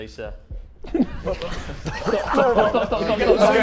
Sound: Sidemen laughing

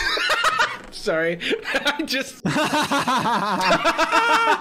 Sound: laughing

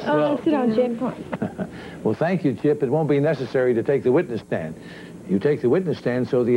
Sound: giggles

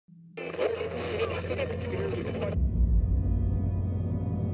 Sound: radio chatter

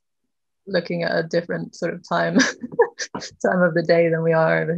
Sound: laughs

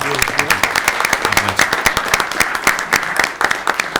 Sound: audience clapping

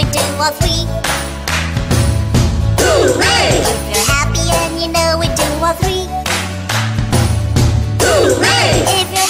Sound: clap clap stomp stomp Hoo-Ray; clap clap stomp stomp Hoo-Ray

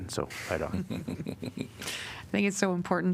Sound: laughter

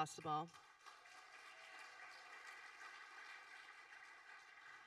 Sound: audience applauding

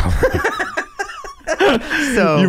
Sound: laughing

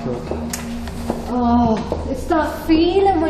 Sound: groans

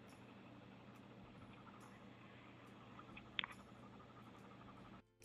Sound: dog panting

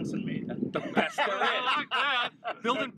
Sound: laughter

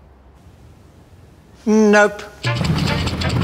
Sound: long silence; Richie Benaud, firmly

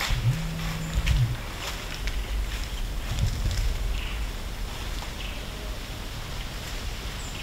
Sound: leaves crunching from deer walking

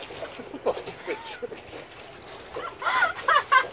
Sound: laughs

